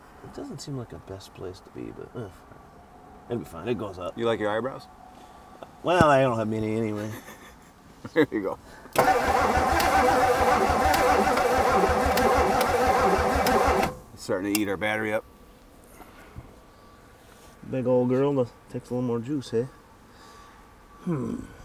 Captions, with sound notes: It doesn't seem like a best place to be, but it'll be fine, it goes up. - You like your eyebrows? - Well, I don't have many anyway. - (laughs) There you go. (vehicle engine humming) (vehicle engine clicking) It's starting to eat our battery up. - Big old girl takes a little more juice, aye? (grunts)